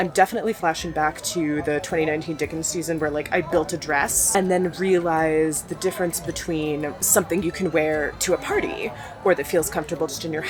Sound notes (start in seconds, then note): none